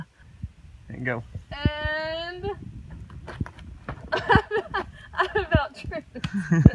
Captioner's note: laughing